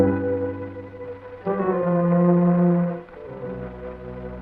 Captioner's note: gentle music continues; leaves rustling; dramatic music